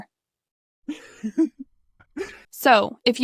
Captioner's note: giggles